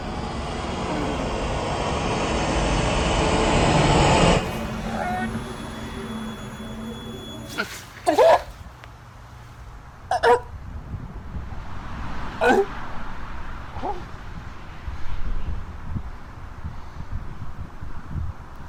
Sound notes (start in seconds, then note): 2.1 plane passing